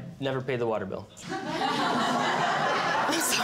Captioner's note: audience laughing